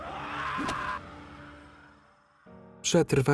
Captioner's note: screaming; suspenseful music; dramatic music